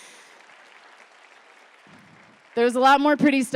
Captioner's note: applause